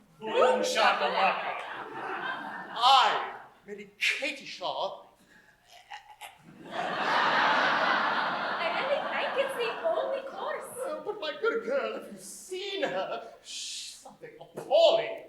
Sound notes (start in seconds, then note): 5.7 coco gags